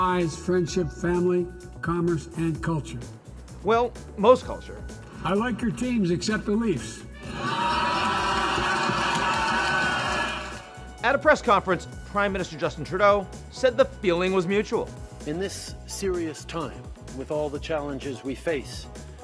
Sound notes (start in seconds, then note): 7.1 crowd laughing and cheering